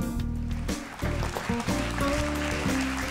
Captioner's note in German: Applaus